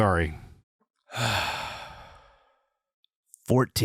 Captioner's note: sigh